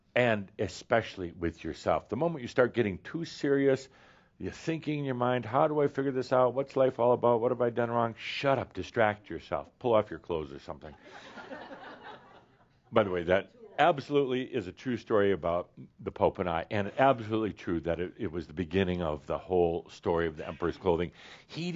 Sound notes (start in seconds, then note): 11.0 some laughter